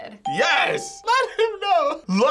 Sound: bell rings

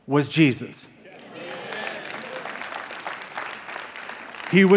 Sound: applause

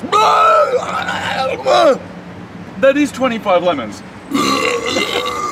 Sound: buuuurp

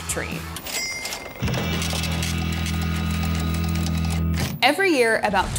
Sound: cash register dinging

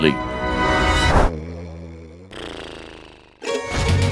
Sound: snoring

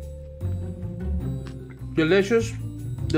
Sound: mischievous music; burrito crunching

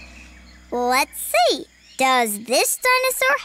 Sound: none

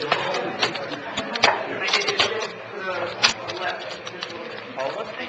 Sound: people chattering quietly

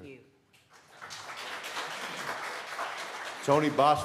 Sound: applause

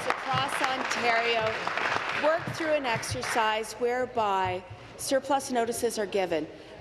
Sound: applause

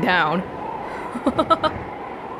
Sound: chuckles

